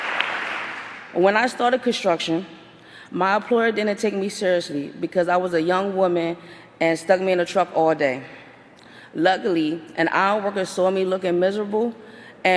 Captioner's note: applause